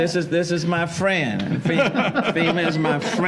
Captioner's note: laughter